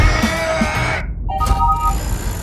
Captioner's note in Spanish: Se abre la puerta